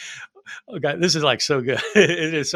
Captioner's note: chuckling